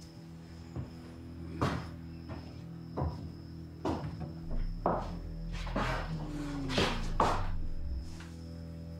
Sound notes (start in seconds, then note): 1.0 footsteps thudding